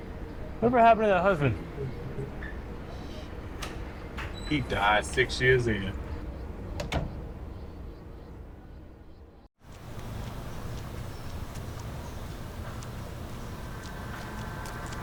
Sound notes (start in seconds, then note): 6.7 door closes